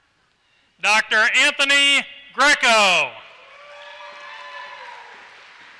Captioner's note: applause